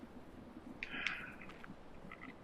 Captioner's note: sighs